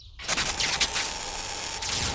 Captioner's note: electrical crackling